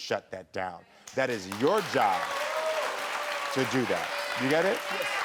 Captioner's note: cheering